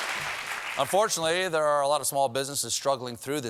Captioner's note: applause